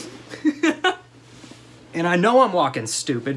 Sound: laughter

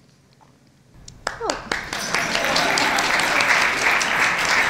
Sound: applause

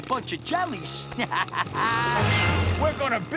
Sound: laughs

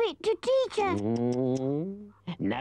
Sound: Chief Weasel tuts

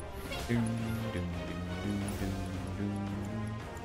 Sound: humming

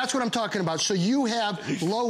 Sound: laughter

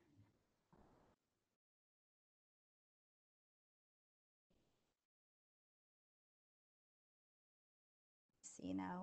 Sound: silence

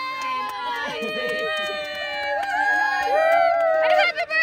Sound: group cheers

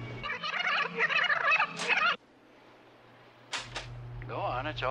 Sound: tape squeaks

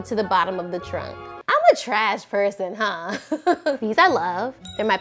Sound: laughs

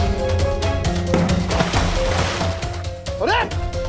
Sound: water splashing

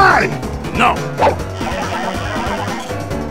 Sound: Declock_sound_effect.mp3

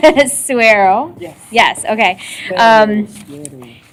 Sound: none

